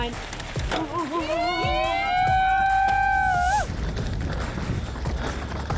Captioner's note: cheering